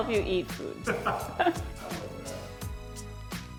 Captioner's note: laughs